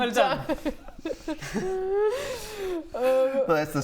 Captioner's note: wheezes